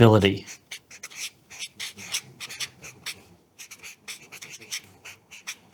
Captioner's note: marker squeaking